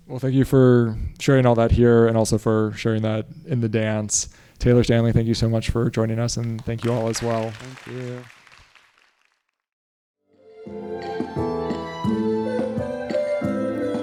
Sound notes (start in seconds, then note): 6.3 audience applauding; 10.4 bright rhythmic music